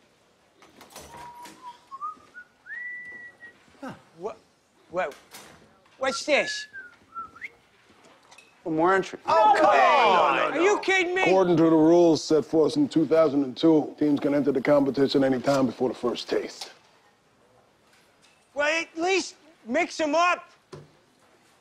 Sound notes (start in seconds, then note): 0.6 door opening; 1.1 whistling; 6.0 whistling